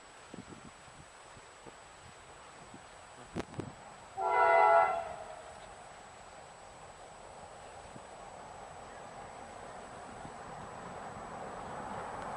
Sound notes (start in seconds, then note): 4.1 train Horn